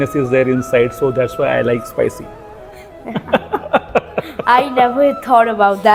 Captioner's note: laugh